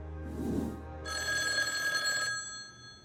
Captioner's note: phone rings